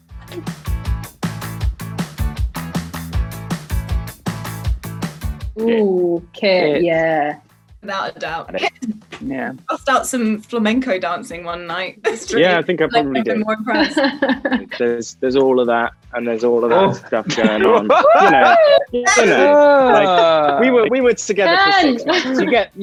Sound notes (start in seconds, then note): 0.0 upbeat music; 13.5 Amita laughs; 16.6 all laughing